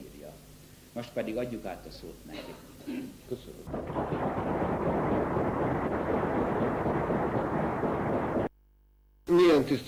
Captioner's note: applause